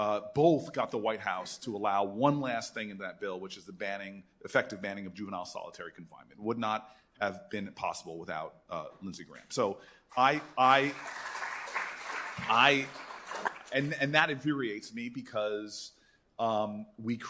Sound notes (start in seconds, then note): 10.1 applause